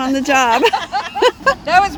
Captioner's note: laughing